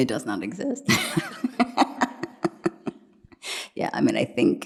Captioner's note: laughs